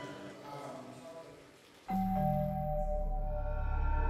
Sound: doorbell rings

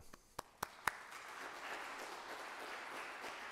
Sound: applause

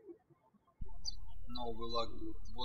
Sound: birds chirping

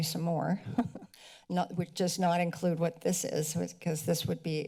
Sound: laughs

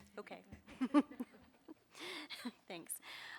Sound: board members laugh

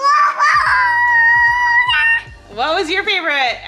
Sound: cheering

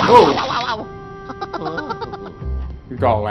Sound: E. Gadd laughing

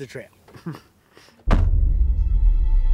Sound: thud; ominous music

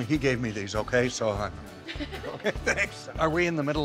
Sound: laughing

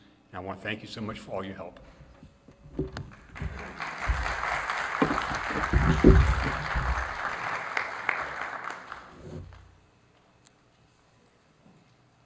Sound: applause

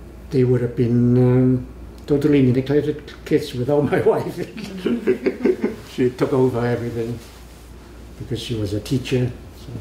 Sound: laughs

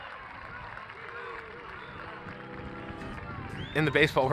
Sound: fans cheer

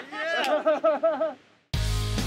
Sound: laughter

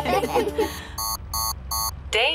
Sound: laughter; beeping

